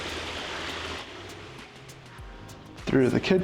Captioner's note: water splashing